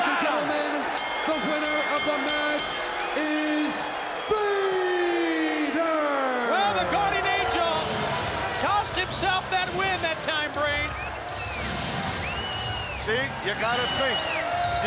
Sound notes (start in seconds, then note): 0.8 bell ringing; 13.6 crowd cheering